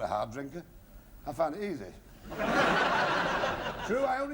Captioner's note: laughter